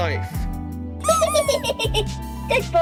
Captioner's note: giggling and hugging him